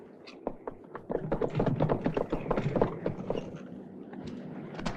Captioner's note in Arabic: خطوات تدق